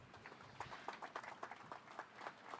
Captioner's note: applause